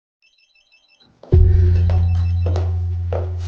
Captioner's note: phone rings